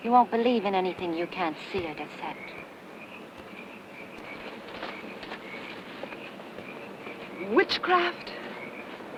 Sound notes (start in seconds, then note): 4.8 footsteps pattering